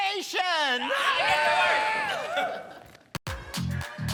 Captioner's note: all cheering; upbeat music